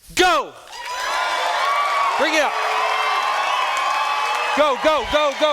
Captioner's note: students cheering